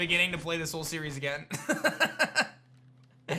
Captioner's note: laughs